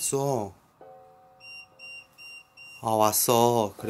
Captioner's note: beeping